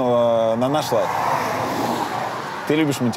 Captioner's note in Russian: шум проезжающей машины